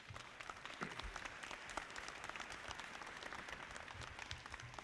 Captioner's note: audience clapping